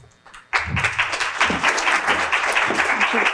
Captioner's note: applause